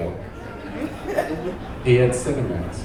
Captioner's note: audience laughing